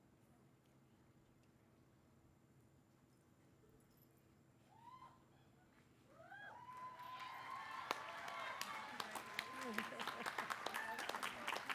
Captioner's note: applause